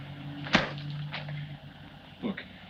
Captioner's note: slap thuds